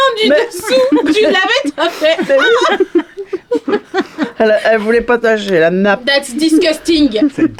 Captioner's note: Rires